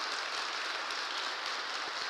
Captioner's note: applause